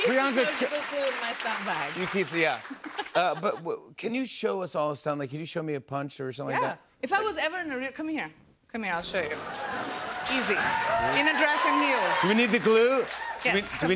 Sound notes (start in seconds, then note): 9.3 cheers and applause